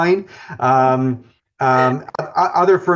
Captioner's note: laughing